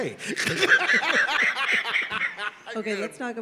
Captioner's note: all laughed